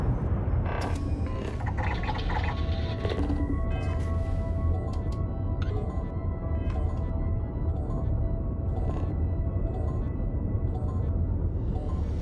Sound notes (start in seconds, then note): 0.2 computer sounds; 8.4 countdown beeping